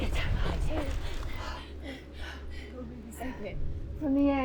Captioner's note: both gasp